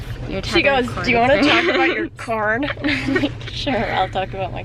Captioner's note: weird voice